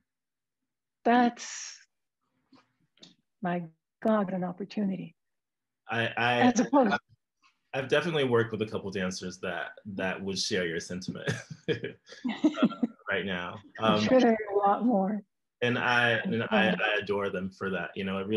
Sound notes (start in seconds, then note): 11.3 applause; 13.0 laughs